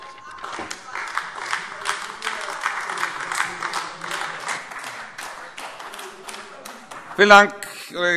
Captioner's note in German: Beifall AfD